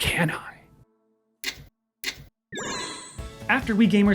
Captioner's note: video game sound effects